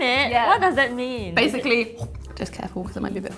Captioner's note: imitates biting sound